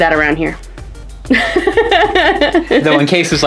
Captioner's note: laughs